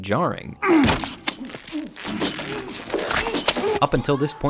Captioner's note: muffled scream